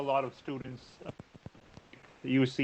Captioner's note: audio cuts out